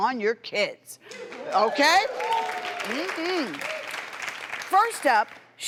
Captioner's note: crowd cheers and applauds